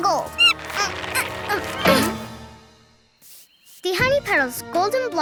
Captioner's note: monkey squeaks; grunting